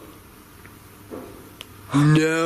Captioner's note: thumping